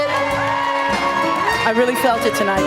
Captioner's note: applause